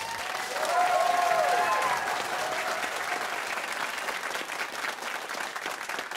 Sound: cheers and applause

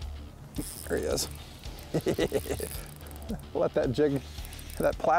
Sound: laughs

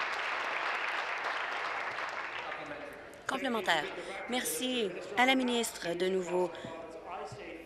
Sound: applause

